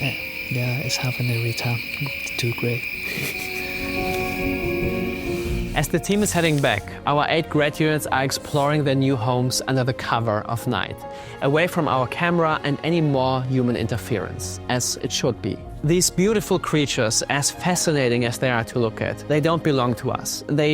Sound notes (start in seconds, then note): 3.1 chuckles